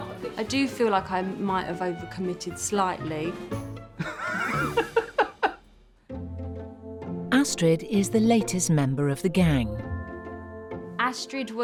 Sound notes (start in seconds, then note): 3.9 both laughing; 4.3 playful music